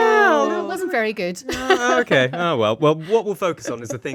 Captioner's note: laughs